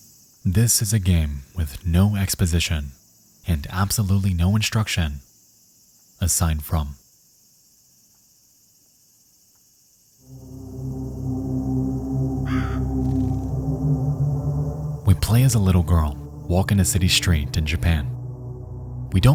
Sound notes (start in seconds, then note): 10.2 uneasy music; 12.3 crow caws